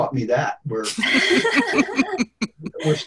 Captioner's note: laughter